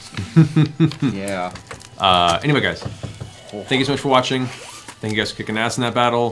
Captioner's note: laughs